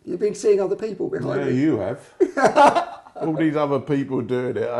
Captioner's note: laughing